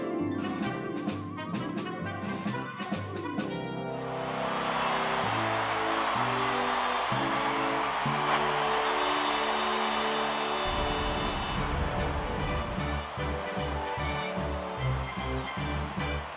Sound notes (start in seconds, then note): 3.9 cheering